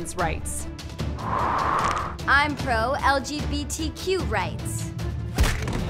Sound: wind blows

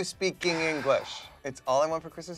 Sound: Philemon breathes heavily

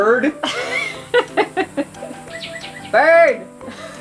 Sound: laughs

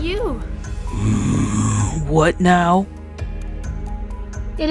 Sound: growls

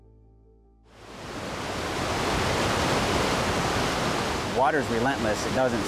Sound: water flowing

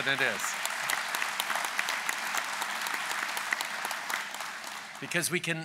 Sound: applause

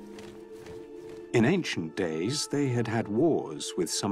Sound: narrator reading on-screen text

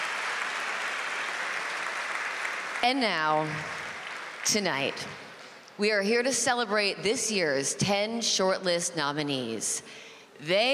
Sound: applause

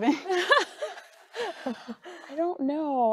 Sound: group chuckling

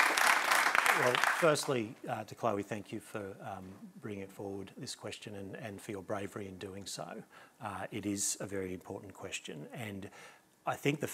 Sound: applause

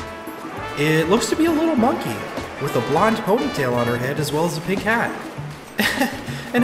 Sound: small footsteps on sand; chuckles

